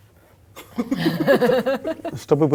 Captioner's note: laugh